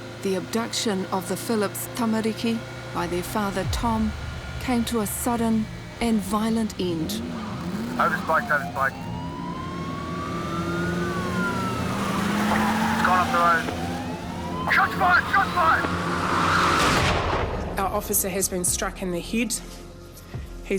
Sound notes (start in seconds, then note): 10.7 sirens wail; 12.0 tyres screech